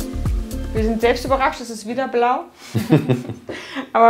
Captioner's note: laughs